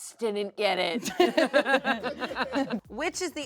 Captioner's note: everyone laughs